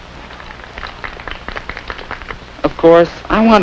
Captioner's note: polite applause